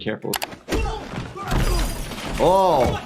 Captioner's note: men thudding against the floor